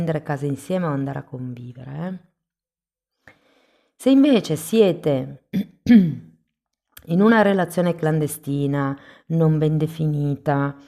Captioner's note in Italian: schiarire la voce